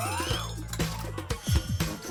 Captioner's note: pit-a-pat; clack